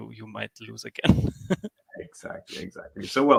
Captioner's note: laughs